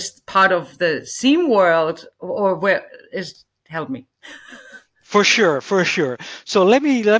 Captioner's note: laughs